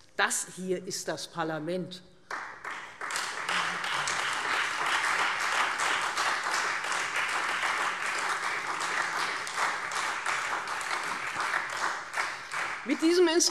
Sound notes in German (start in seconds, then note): 2.2 Beifall Freie Demokraten und SPD